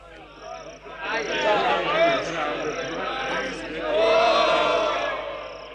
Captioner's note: weasels chattering and cheering